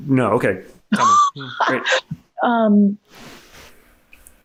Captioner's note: laughs